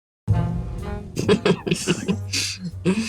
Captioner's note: laughing